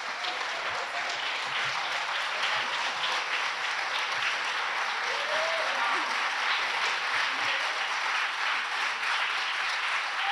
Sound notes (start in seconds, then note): 3.2 audience continues applauding